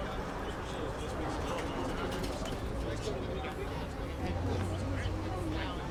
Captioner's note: background chattering